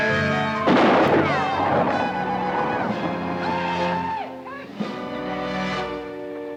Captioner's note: Apaches howl; guns fire; bullet ricochets